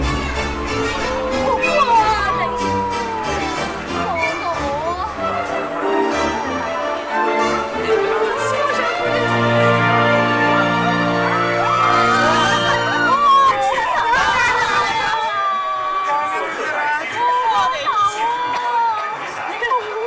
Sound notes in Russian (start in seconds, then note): 10.3 крики